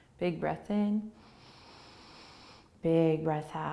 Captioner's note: inhaling